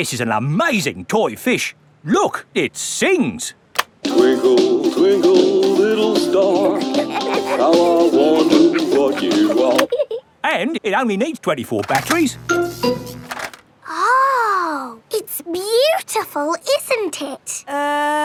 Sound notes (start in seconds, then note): 5.9 both giggling; 12.0 buzzing